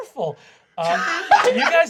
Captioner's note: laughing